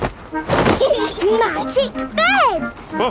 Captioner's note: laughing